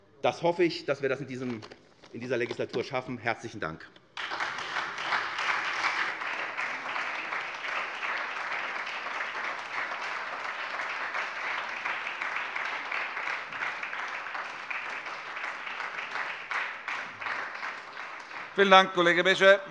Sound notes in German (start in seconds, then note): 4.1 Beifall SPD, Freie Demokraten und vereinzelt DIE LINKE